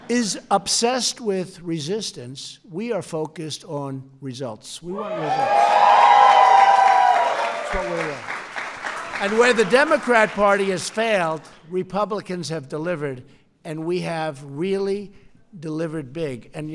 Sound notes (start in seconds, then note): 5.5 applause